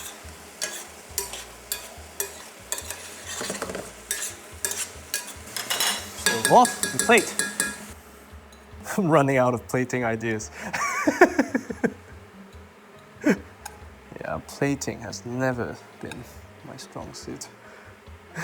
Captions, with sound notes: Stove off and we can plate. I'm running out of plating ideas. [laughs] Yeah, plating has never been my strong suit.